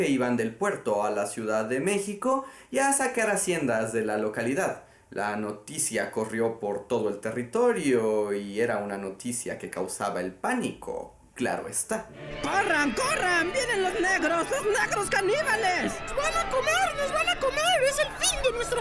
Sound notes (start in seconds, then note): 12.2 histerical New Spain priest screaming; 13.9 Histerical New Spain Lady screaming